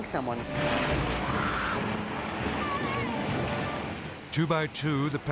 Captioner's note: people scream